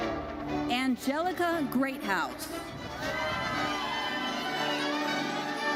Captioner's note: audience cheers